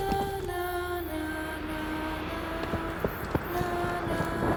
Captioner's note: wind blows